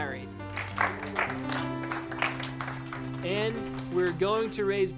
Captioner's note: applauding